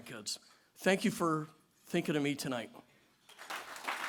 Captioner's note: applause